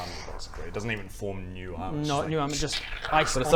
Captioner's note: krrck